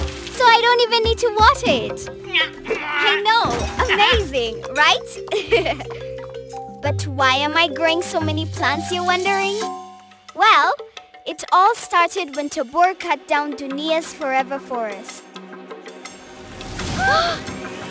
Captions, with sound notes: So I don't even need to water it. I know! Amazing, right? (chuckling) But why am I growing so many plants you're wondering? Well, it all started when Tobor cut down Dunia's Forever Forest...